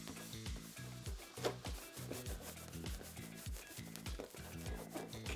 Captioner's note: gentle rustling